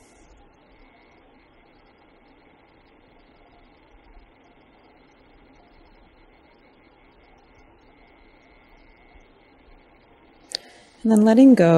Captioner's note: silence